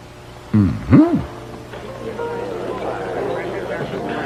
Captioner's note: indistinct chattering